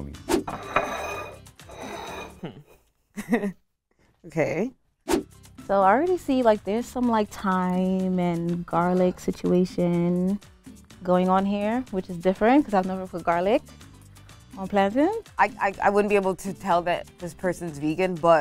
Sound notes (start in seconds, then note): 0.4 plate scraping the table; 2.4 speaker chuckles